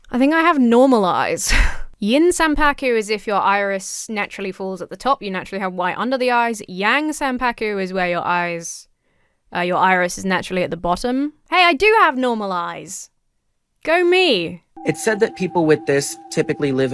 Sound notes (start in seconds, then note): none